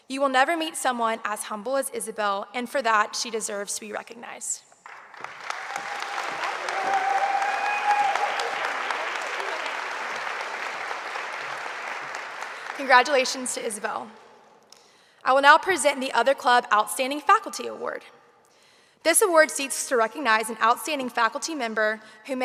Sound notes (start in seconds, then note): 4.8 audience applauding; 5.2 audience cheering